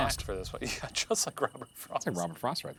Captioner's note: laughing